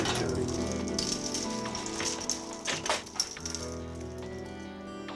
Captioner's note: bead curtain rattling; somber music continues